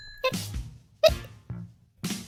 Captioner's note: Hic